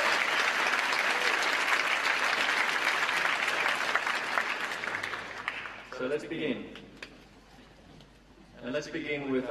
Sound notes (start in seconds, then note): 6.6 applause